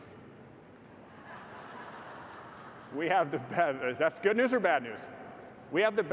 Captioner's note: laughter